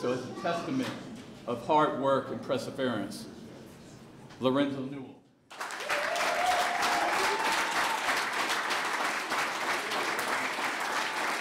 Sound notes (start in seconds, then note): 5.5 clapping